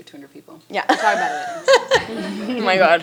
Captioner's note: chuckles